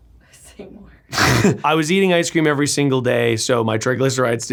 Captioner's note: chuckles